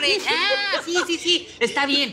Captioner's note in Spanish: Carcajada